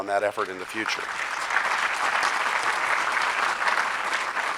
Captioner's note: audience clapping